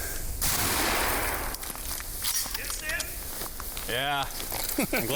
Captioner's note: gunshot rings out